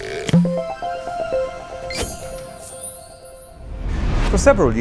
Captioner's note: playful chime